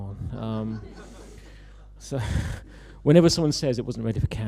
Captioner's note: laughter